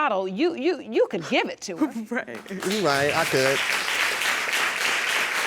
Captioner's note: sobbing